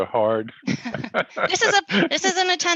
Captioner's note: laughs